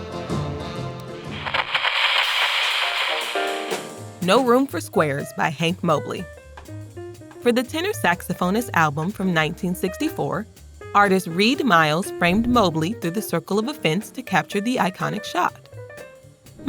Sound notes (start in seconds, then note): 1.3 radio crackles; 2.9 upbeat music plays